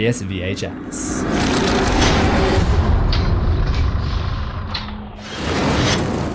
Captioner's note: impact